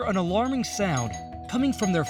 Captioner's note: doorbell ringing